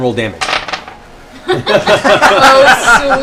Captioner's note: laughter